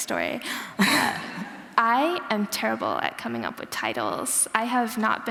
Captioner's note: laughter